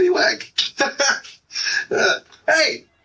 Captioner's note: laughing